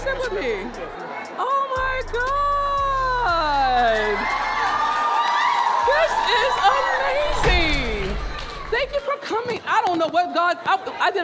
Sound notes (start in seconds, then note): 4.0 audience cheering and clapping